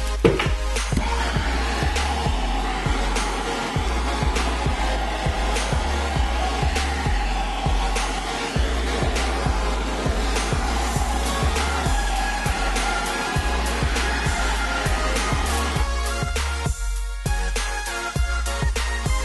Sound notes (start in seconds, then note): 1.1 blow torch noise